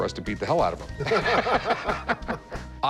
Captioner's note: laughter